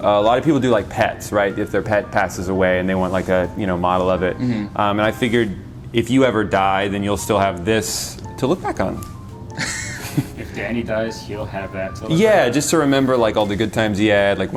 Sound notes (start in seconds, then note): 9.5 laughs